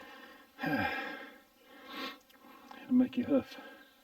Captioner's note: sighing